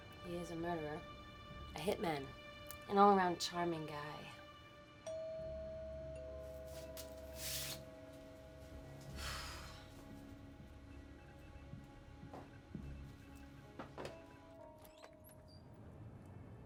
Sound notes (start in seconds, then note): 5.0 doorbell rings; 9.1 sighs heavily